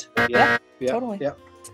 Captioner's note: loud incorrect buzzer